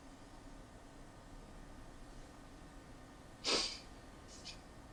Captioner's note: sniffling